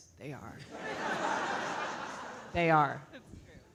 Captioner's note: audience laughing